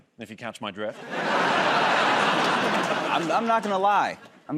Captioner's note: laughter